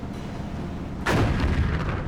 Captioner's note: cannon firing